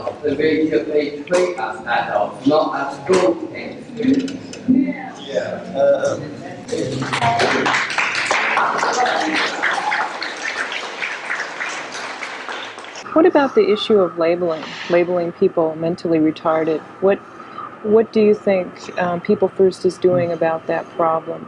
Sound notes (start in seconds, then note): 6.9 cheers and applause